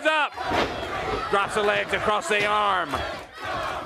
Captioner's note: crowd cheering